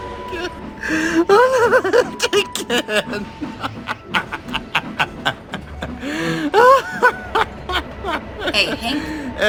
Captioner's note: laughs